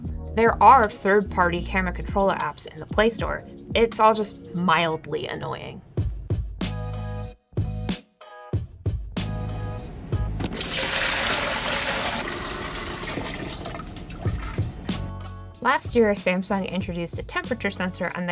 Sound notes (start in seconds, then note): 6.0 upbeat music; 10.5 water sploshing